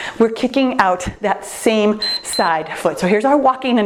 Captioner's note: timer beeps